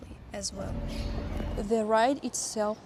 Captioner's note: chirp